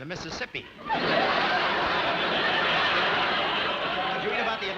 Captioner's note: audience laughing